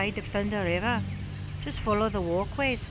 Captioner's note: thunder rumbling